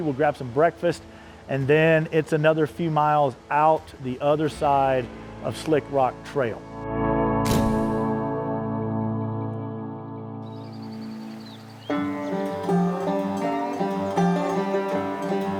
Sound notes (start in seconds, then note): 7.5 camera flash sound effect; 12.0 wilderness music